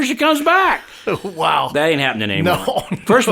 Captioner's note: laughs